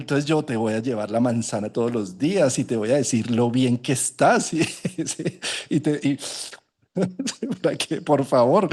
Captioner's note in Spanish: risas